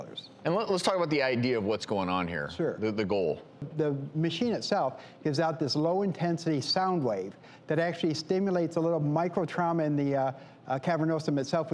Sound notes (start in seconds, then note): none